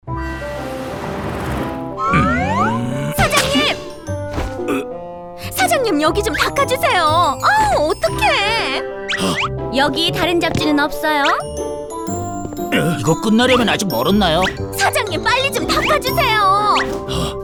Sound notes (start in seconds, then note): 0.1 cheerful music; 4.6 Master Bread groans